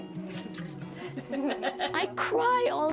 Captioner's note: laughs